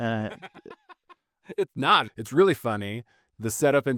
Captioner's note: laughing